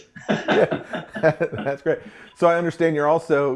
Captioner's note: laughing